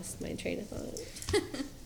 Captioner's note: laughs